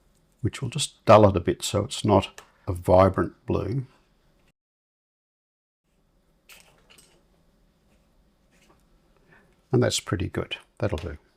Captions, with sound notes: which we'll just dull it a bit so it's not a vibrant blue. [silence] And that's pretty good. That'll do.